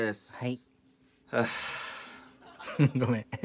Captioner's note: sighs